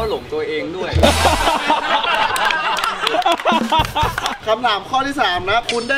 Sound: laughs; applauding

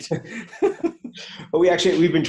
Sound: laughs

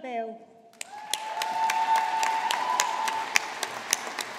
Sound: audience applauding

